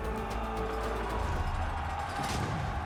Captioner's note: yelling